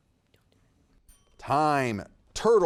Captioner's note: timer dinging